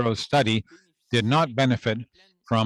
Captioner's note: speaking French